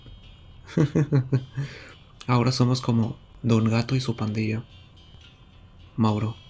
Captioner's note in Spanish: Risa breve